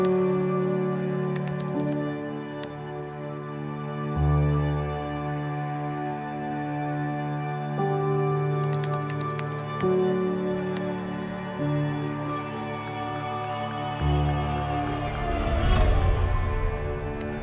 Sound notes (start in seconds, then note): 1.3 keyboard clicking; 8.6 keyboard clicking; 13.9 people cheering; 17.0 keyboard clicking